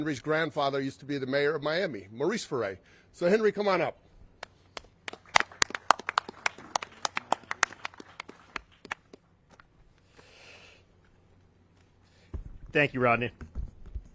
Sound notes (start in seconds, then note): 4.6 all clapping